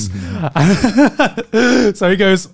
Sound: laughing

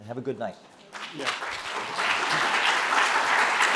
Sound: applause

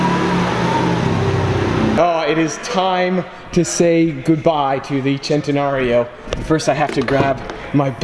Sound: chanting

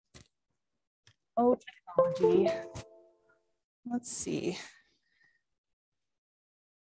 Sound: computer beeps

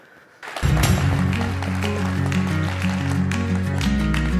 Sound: applause

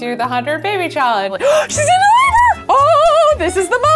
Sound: gasps

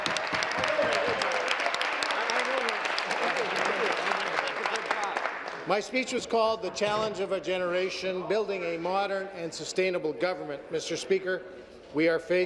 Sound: applause

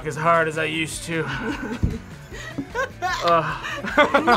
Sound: laughs

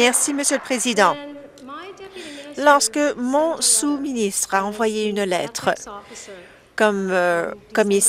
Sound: some Applause

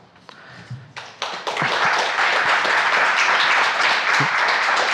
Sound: audience applauds

